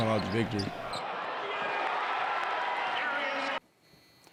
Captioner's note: crowd cheers